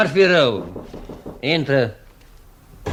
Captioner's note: sound - knocks on the door